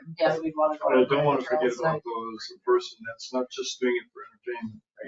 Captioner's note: people chattering